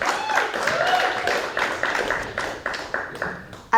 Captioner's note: audience laughs; audience cheers